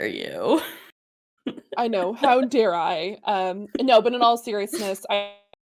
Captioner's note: laughs